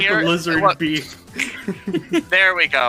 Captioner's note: finger snap sound effect